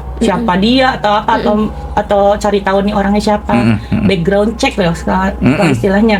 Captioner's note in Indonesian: berdehem